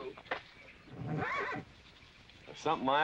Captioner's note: horse neighing